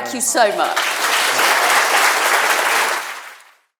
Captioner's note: crowd applauding